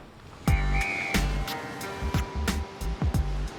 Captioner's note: whistles